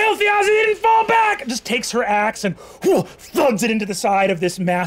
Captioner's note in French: grogne